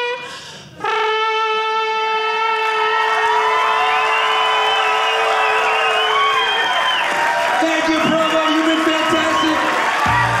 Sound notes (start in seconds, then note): 2.6 audience cheering